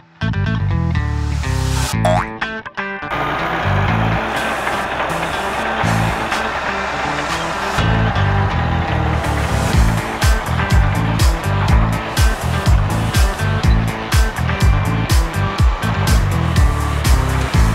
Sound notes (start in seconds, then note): 3.2 metal grinding; 9.9 upbeat music